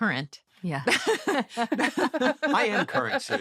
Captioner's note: laughter